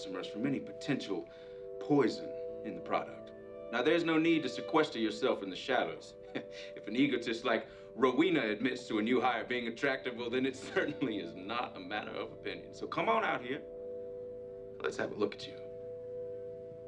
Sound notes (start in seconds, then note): 6.3 chuckles